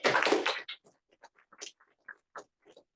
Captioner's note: applause